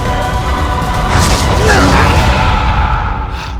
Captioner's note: sonic boom; fading sith screams